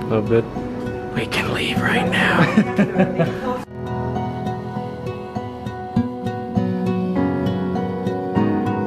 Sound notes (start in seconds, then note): 2.2 chuckling; 6.2 mellow music